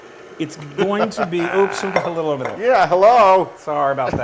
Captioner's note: laugh